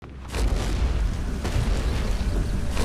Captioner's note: thundering footsteps